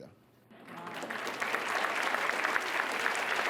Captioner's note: applause